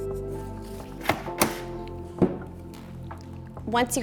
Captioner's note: mount clicks